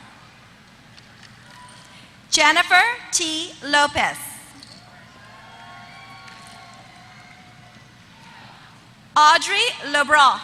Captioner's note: applause